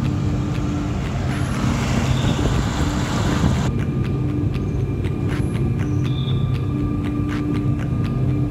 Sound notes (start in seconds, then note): 1.2 air whooshing